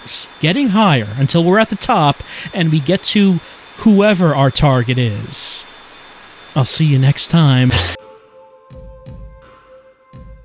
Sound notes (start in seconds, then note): none